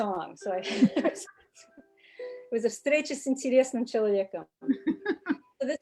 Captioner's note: speaking in foreign language; laughing